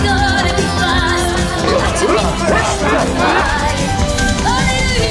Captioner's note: grunting